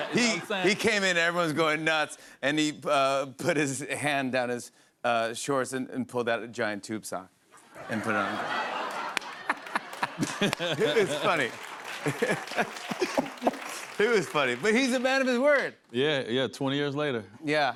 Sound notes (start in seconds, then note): 7.7 laughter; 11.9 applause